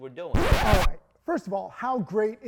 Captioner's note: vinyl record scratches